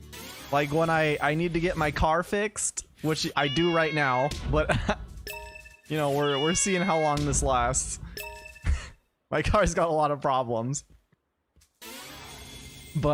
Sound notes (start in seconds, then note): 3.2 laughs